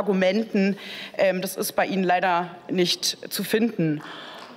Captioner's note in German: Beifall